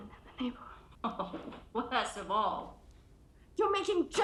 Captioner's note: laughs